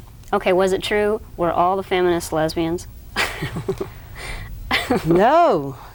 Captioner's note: laughs